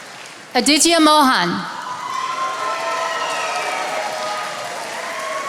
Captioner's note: attendees applauding